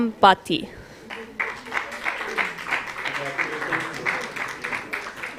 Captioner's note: applause